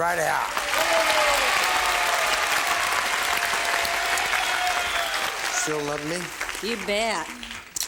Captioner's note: applause